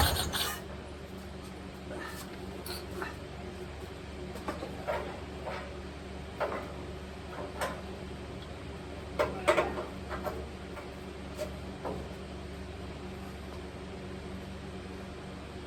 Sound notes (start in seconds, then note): 0.0 engine cranking; 0.0 engine dies; 0.0 engine sputtering/idling; 1.5 clank